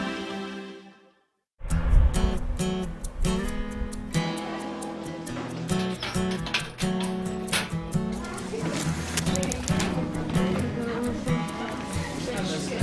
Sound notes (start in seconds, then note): 3.4 light guitar music; 9.5 children chat